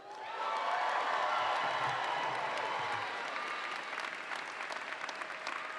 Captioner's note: audience applauds and cheers